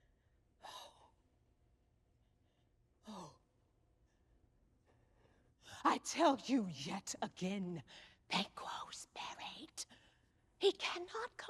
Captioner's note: whispering